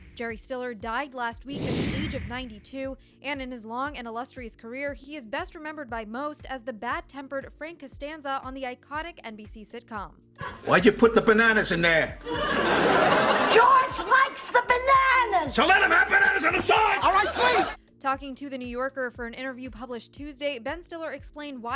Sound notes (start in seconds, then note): 12.2 laughter